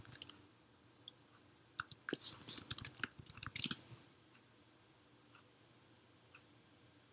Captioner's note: typing clicky noises